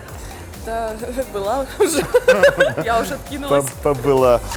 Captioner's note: laughs